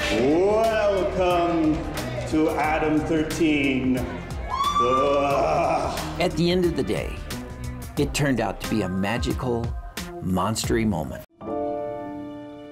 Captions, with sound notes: Welcome to Adam 13. [GROANS] At the end of the day, it turned out to be a magical monstery moment.